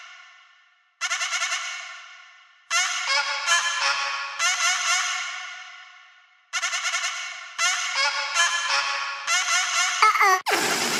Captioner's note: dinosaur sounds